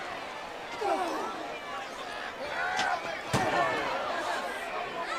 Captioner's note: wrestlers grunting